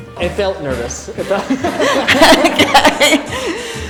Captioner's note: laughs